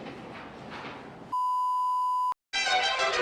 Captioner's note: beep